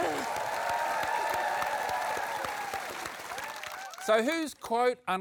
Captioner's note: cheering and applause